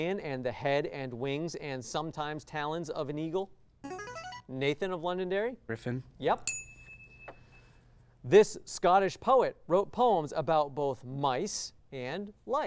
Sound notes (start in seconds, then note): 3.8 signaling device tone; 6.4 ding